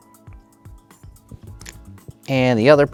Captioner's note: tokens clattering